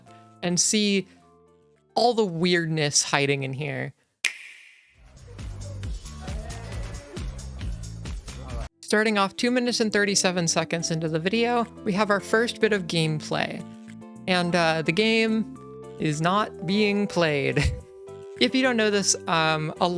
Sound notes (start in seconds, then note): 4.3 Nintendo Switch Click; 5.2 ambient party noises